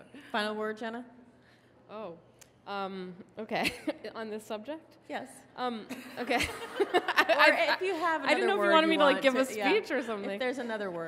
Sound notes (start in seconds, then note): 6.0 audience laughs